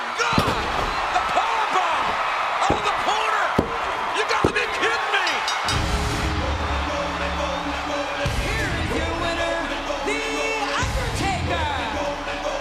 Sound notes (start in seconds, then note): 5.2 bell ringing